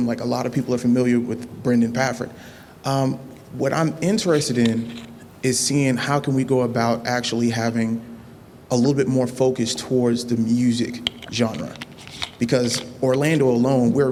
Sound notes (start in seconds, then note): none